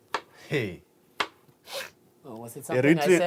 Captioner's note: sniffs